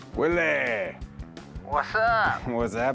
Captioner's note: on phone